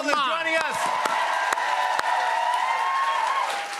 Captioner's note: cheers and applause